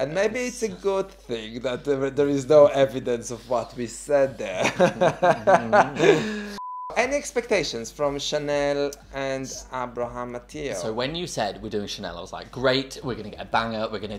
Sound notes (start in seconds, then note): 4.6 laughing